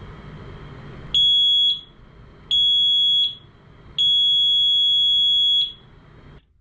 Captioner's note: three long beeps